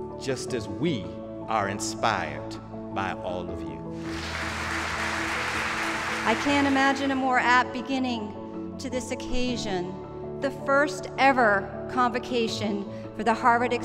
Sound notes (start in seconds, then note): 3.9 applause